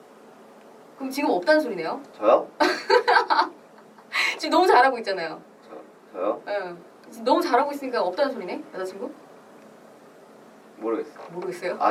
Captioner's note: laughs